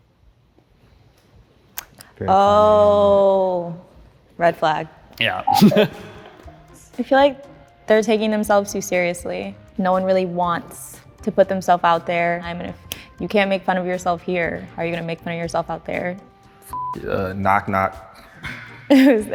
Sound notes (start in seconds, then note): 5.4 laughs; 16.7 beep